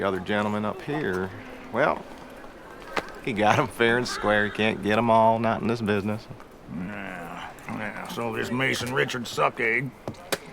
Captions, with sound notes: you can't get them all, not in this business. - So this Mason Richard sucker, he (spits) killed my brother.